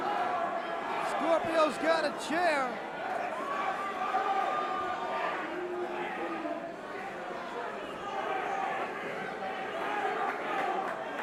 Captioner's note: crowd cheering